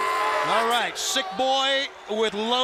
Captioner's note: crowd chatter